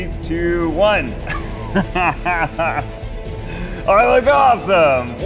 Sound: laughing

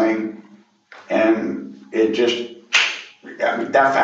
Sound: snaps finger

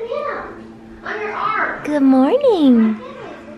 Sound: kids shouting in distance

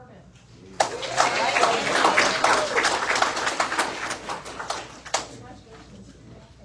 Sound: audience cheers and applauds

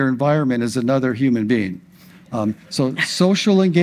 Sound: audience laughs

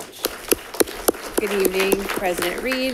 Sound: congregation claps

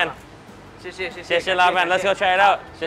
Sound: both speak Mandarin

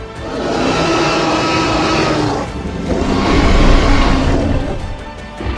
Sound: T-Rex roars loudly

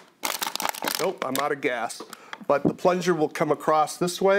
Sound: plastic bottle crinkling

